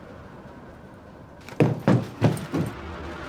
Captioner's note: gunshot